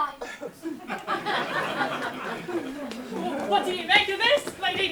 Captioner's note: audience laughs